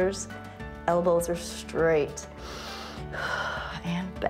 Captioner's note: inhales and exhales